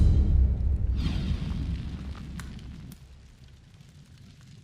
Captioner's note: dramatic music; whooshing